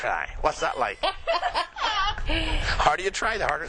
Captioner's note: lady Laughs